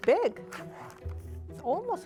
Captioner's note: pulling off wrapper